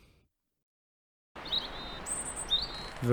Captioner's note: bird sounds